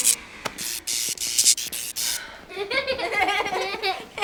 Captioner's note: hissing; laughing